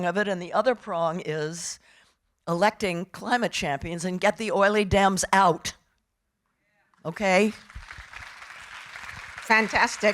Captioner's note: audience applauding